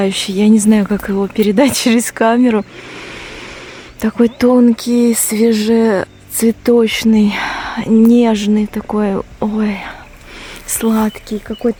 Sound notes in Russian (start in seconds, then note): 5.8 вздыхает; 6.7 тяжело вздыхает